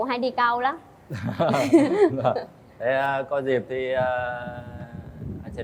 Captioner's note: laughter